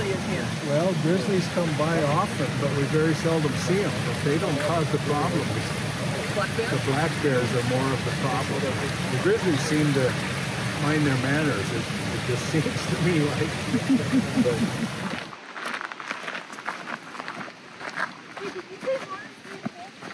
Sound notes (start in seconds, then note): 13.5 laughter; 15.0 gravel crunching under footsteps